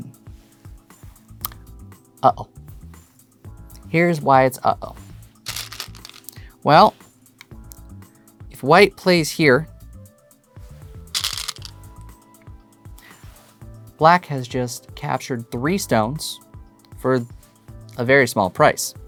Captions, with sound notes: Uh oh. Here's why it's "uh oh." (stones rattling) Well, if white plays here. (stones rattling) Black has just captured three stones for a very small price.